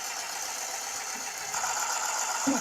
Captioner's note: sewing machine whirring